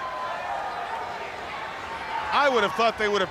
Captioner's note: crowd chatter